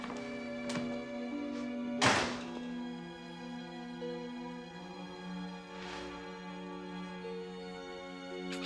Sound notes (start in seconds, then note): 2.0 door slams; 4.3 sad music